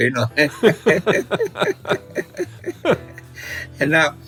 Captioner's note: both laughing